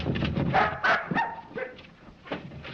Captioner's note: barking